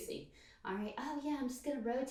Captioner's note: mimicking high-pitched voice